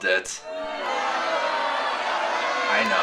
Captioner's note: crowd boo